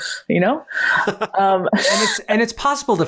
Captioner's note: laughs